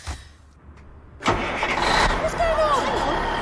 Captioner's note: engine starts